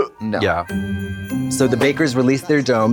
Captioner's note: Katya gags; festive chime